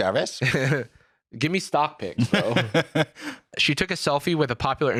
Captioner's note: laughs